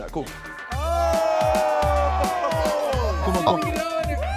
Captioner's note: players cheer